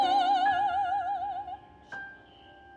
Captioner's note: none